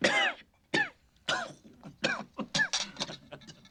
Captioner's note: laughing